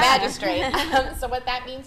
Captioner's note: group laughing